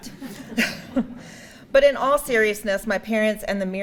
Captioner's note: audience laughing